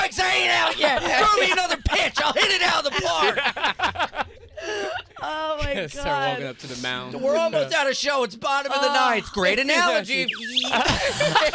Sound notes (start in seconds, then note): 3.9 laughter; 10.2 slide whistle